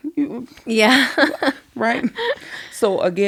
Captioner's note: laughing